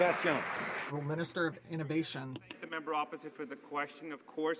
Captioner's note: some Applause